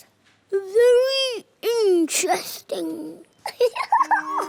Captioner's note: giggles